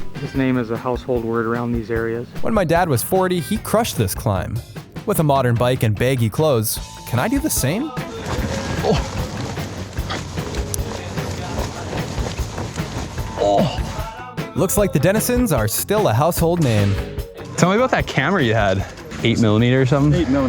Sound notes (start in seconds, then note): 8.1 grunting